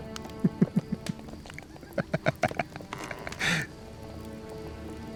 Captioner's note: chuckles